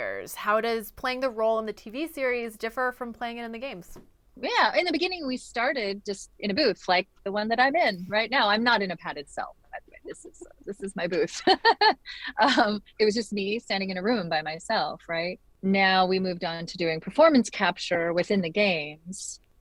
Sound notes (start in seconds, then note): 9.8 laughs